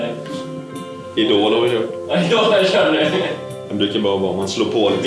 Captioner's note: laughter